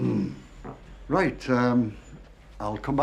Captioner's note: clears throat